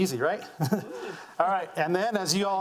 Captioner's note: laughing